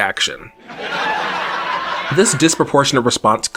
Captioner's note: canned laughter